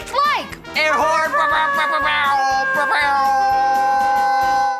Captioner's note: both imitating air horn